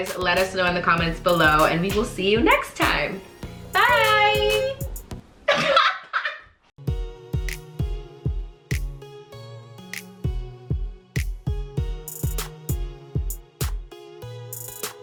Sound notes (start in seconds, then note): 5.5 both laughing; 6.8 upbeat music